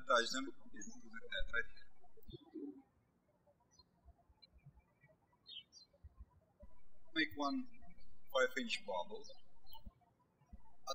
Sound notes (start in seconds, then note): 2.9 birds chirping